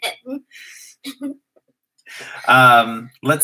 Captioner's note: laugh